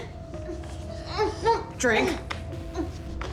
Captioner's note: Kira grunting